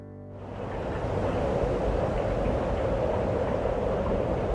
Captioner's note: wind